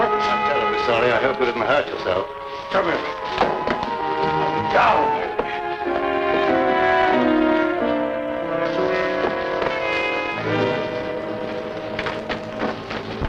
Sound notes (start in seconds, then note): 3.3 gun thuds; 6.3 pensive music